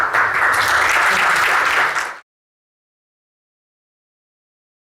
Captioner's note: audience applauding; chuckles